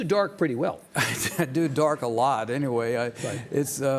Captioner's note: chuckles